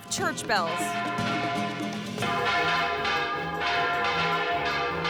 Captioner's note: bells tolling